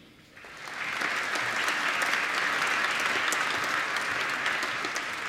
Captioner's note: applause